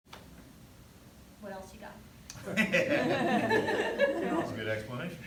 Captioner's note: laughter